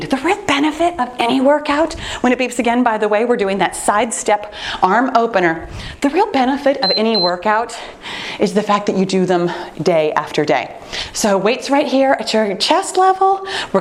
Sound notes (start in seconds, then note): 6.8 timer beeping